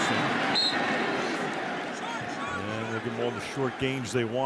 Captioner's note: whistle